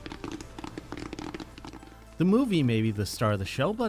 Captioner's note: popcorn popping